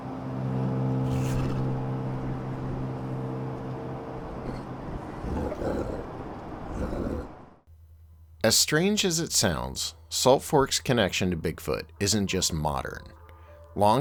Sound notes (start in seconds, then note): 0.0 deep foreboding music; 4.9 creature grunting